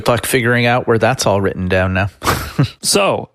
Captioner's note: chuckles